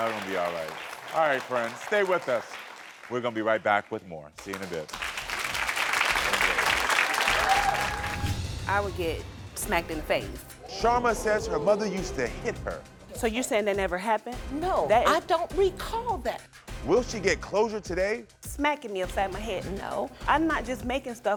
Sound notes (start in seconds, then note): 4.3 audience applauding